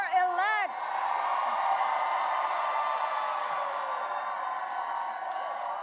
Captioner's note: audience cheering and applauding